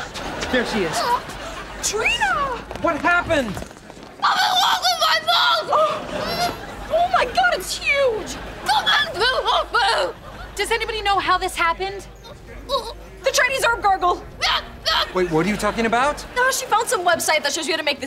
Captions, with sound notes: There she is. - Trina! - What happened? [screaming] ... my tongue! Oh my God, it's huge! [muttering] Does anybody know how this happened? The Chinese herb gargle. Wait, what are you talking about? She found some website that she was gonna make